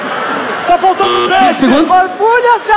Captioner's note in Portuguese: campainha